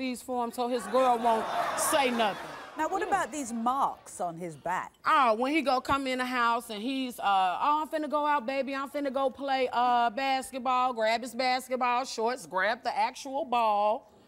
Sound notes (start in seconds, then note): 2.5 audience laughing